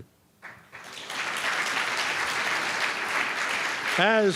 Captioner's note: applause